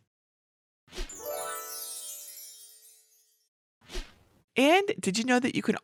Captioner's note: fair dust sound effect